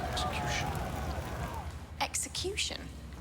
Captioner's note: crowd screaming